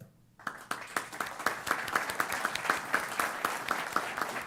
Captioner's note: applause